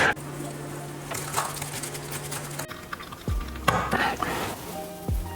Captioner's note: shell scraping